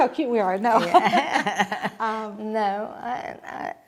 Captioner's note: laughing